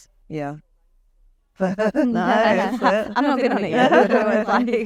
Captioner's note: everyone laughing